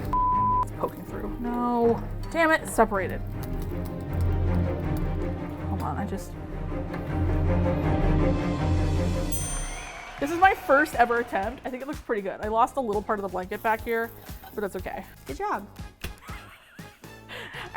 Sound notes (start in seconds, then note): 3.2 tense music; 7.5 crowd cheers; 7.5 ding; 7.5 tense music; 14.6 unenthusiastically; 16.1 laughs